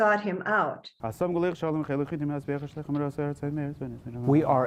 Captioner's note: praying in Hebrew